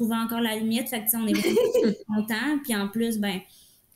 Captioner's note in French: Rires